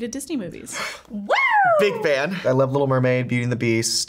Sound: gasps

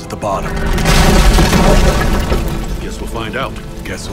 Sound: wall collapsing

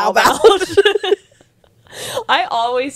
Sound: panel laughing

